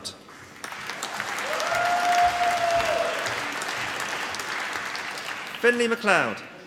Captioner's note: applause